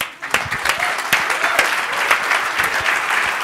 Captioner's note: applause